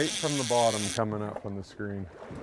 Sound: reel spinning

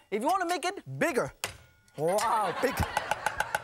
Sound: loud tap; audience laughing

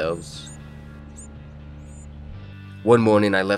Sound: chirping

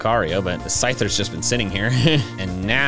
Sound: chuckles

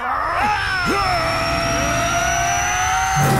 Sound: grunting; screaming

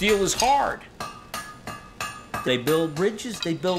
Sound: hammering sound

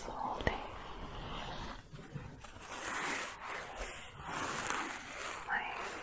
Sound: scratching continues

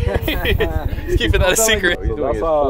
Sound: group laughing

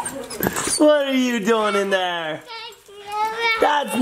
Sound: laughs

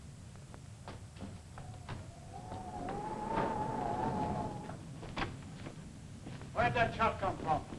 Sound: wind howling; thunder rumbling

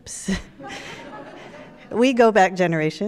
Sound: audience laughs

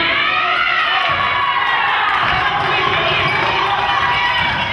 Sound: crowd claps

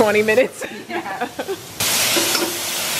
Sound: both laugh

